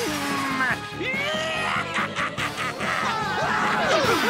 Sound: cackling

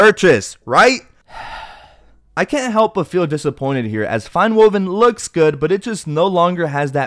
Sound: sigh

